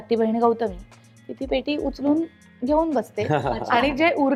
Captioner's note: chuckles